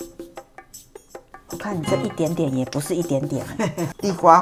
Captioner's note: laughs